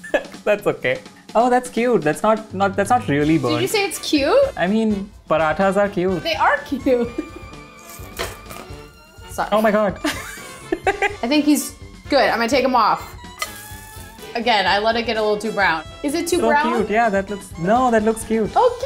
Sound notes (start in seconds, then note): 0.0 laughs; 7.6 laughs; 7.9 pan clinks; 10.0 laughs; 13.5 pan clinks